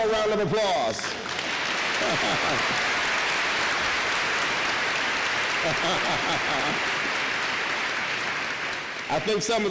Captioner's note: applause